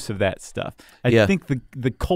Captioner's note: voiceover